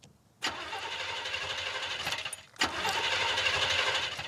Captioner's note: starter whirring